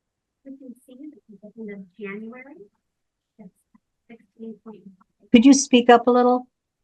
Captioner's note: speaks faintly